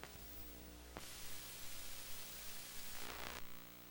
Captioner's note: 60hz buzz; soft static; harsher 60hz buzz